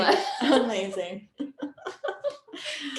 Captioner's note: laughing